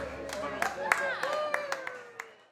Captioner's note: audience applauding and cheering